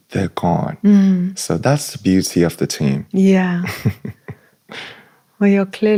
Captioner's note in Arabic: ضحك